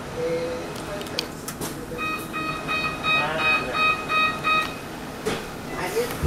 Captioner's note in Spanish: sonido de puertas